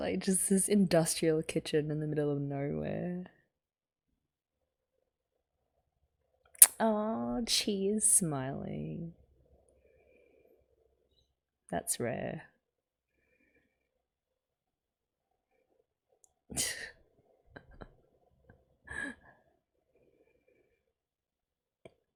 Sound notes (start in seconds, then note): 17.6 laughs